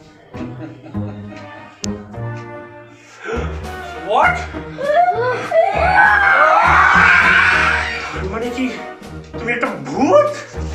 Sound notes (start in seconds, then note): 0.2 laughs mockingly; 4.8 kids scream